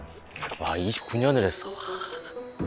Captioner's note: talking to himself